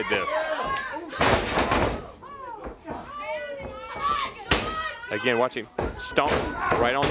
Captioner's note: crowd chatter